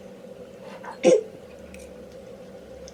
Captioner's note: cough